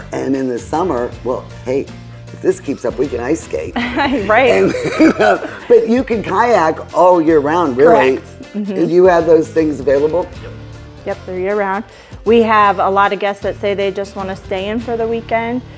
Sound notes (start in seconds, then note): 3.8 woman chuckles